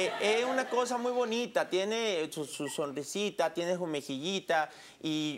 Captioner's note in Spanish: Risas